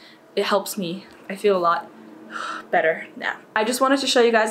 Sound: takes deep breath

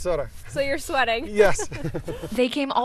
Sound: laughs

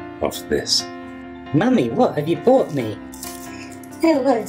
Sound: kid's voice; mum voice

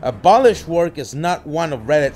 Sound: alarm buzz

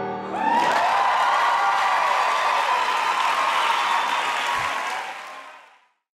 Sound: cheers and claps

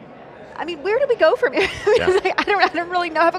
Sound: laughs

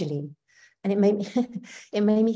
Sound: chuckling

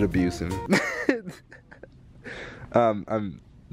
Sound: laughs

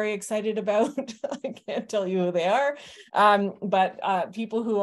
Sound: chuckling

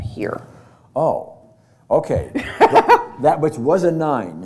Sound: laughter

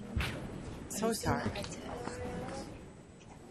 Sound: voiceover

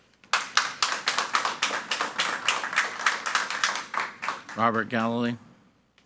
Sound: audience applauding

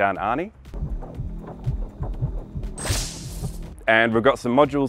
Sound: heartbeat sound

